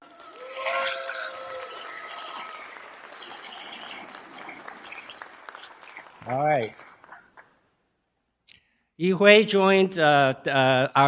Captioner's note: applause